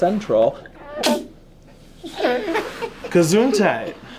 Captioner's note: boy sneezes